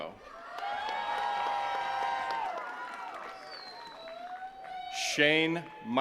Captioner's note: attendees cheering and clapping